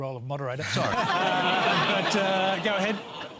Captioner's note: laughter